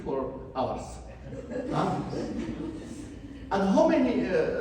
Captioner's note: audience laughs